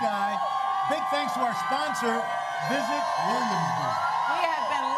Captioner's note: cheers and applause